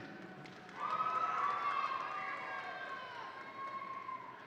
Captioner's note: audience cheering